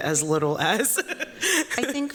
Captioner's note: chuckles